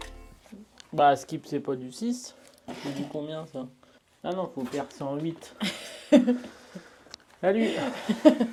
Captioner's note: laughing